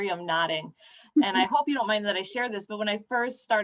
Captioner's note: laughter